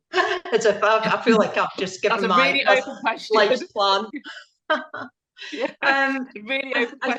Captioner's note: laughing